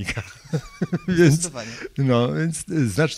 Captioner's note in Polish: śmiech